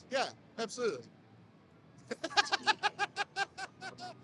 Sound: laughs

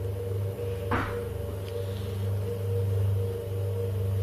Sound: loud thumping

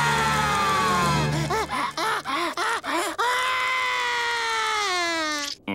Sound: crying

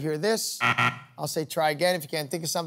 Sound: beep, beep

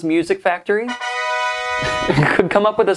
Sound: horn blasting

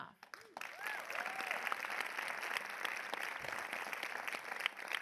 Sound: audience applause

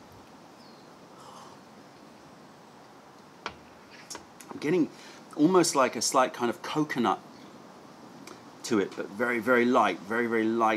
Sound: sips tea

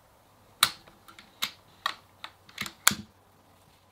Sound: gun cocks

